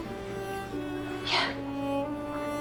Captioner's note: whispering